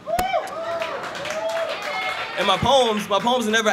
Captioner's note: cheers and applause